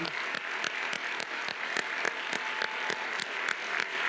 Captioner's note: applause continues